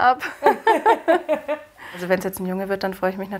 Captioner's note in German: Lachen